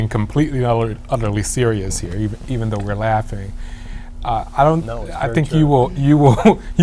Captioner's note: laughter